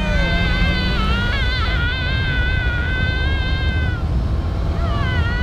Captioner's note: screams